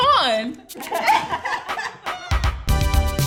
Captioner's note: all laugh